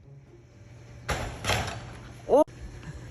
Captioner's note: hockey stick clangs